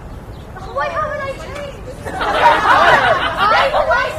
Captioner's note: laughter